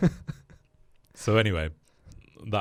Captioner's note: laughs